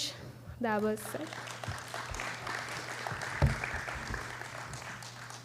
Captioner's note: applause